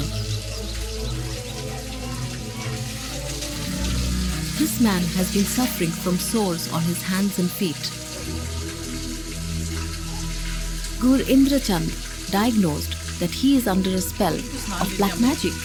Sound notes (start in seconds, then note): 0.2 enigmatic music; 8.1 water burbling